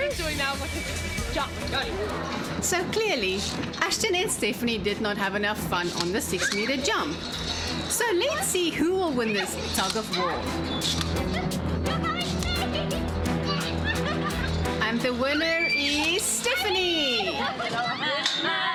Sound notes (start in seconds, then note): 11.8 suspenseful music; 13.9 laughs; 15.0 narrating; 18.5 harmonizing together